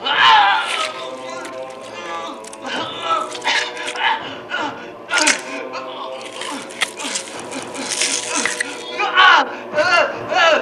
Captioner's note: splat; squish, splat, screams etc